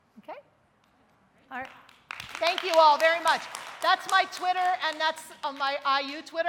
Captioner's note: audience applauds